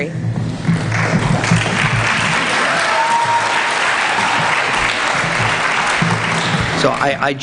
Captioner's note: applause